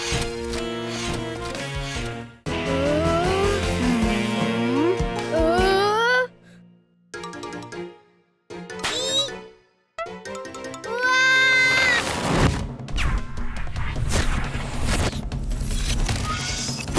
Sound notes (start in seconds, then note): 0.3 defeated music; 7.4 ominous music; 10.9 Esme screams; 13.0 wild music